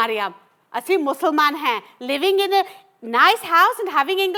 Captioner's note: in Punjabi